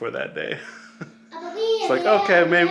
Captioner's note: man laughs